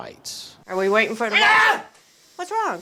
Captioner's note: man screaming